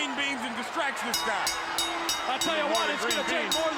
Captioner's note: bell ringing